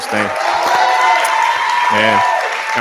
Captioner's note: cheering